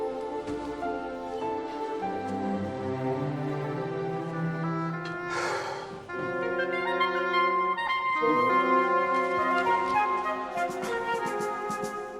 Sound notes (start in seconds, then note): 5.3 Harry sighs; 8.2 cheerful music continues